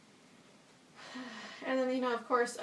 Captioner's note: annoyed sigh